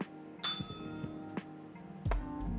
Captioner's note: bell rings